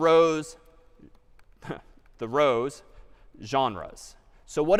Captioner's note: chuckles